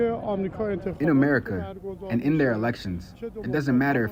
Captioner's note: through translator